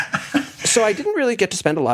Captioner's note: laugh